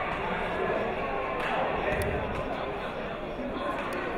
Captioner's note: chattering